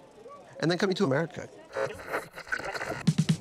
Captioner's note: radio signal static; upbeat music